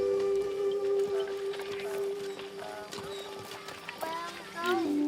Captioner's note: donkeys braying